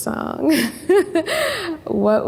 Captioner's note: laughing